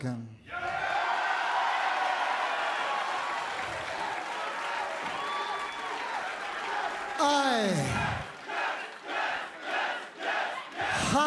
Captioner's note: cheers and applause; fans chanting